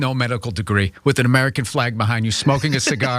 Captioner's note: laugh